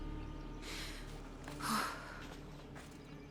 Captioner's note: exhale